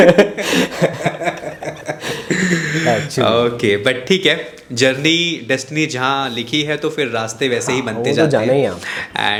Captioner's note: laughs